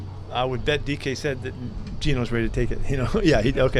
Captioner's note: chuckles